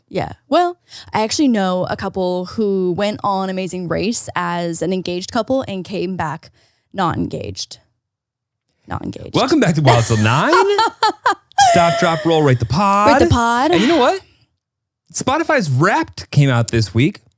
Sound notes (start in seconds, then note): 9.7 laughing